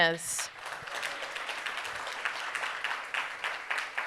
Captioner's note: audience applauding